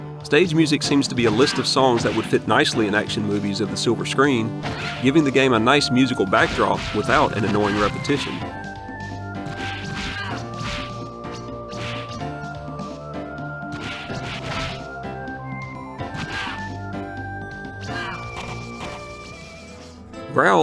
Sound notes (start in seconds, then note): 9.8 more game sounds